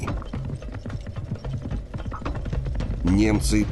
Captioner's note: sound of hooves